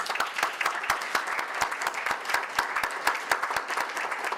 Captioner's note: audience applause